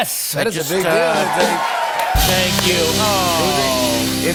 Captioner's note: cheers and applause